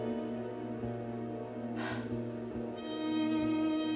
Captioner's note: sighs